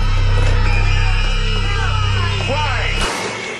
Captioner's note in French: Enfants qui se plaignent